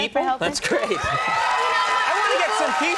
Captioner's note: audience clamoring